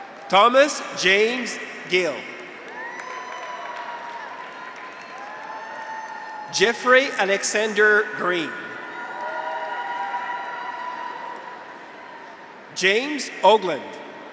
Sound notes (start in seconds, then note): 0.0 audience applauds; 0.0 graduates cheer; 2.5 audience applauds; 2.9 graduates cheer; 9.0 audience applauds; 9.0 graduates cheer